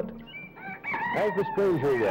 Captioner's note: cock crowing